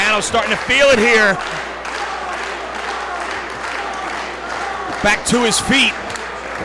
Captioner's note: applause